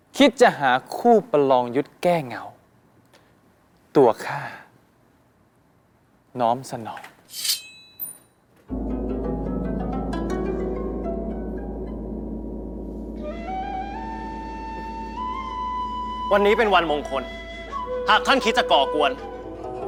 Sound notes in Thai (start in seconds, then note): 7.3 เสียงกระบี่